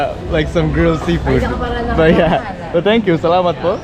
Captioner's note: foreign language